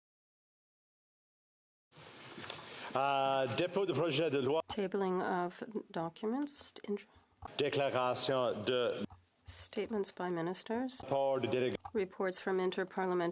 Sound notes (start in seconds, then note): 8.0 speaking French